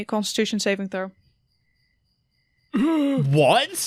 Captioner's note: groans